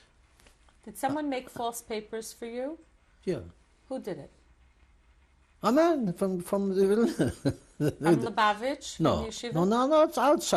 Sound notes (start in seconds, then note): 6.8 laughs